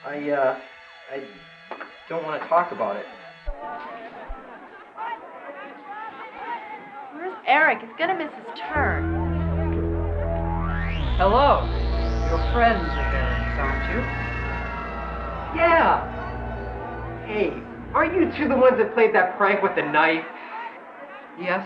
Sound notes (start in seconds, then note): 3.4 students talking